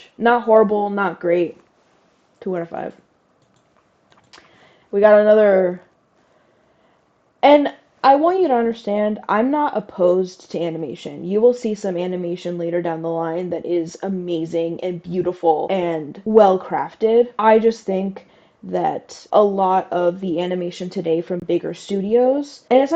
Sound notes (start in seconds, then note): 4.1 clicks tongue